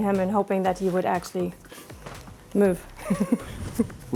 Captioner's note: laughs